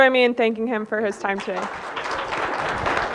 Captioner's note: audience applauding